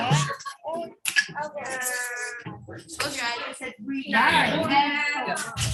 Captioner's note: students chattering